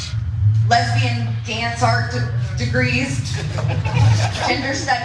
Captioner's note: laugh